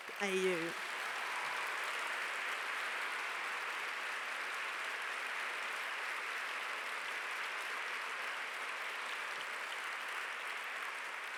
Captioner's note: applause